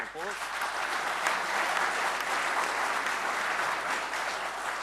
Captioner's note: audience applauding